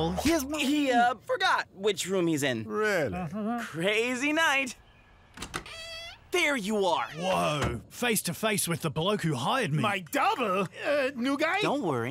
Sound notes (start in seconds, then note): 5.2 door creaking